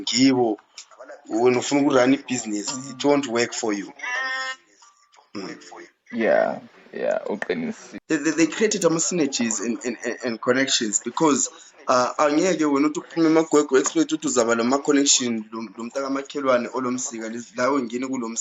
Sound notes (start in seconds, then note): none